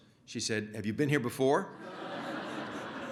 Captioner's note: laughter